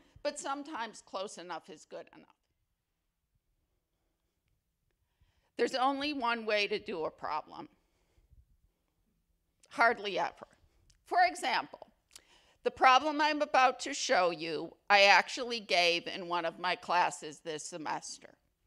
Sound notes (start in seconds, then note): none